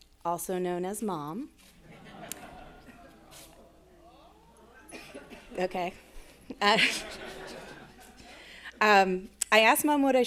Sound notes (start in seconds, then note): 1.7 attendees chuckling and chattering